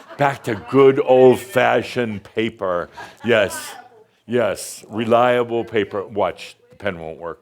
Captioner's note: someone shouts “Reliable!”